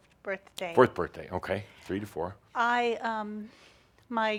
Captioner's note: none